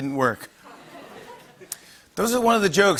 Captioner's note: light laughter